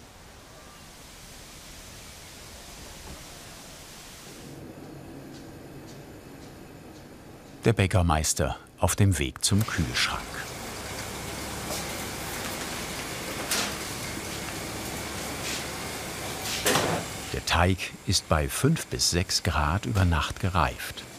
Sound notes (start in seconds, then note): 4.4 soft whirring; 11.0 whirring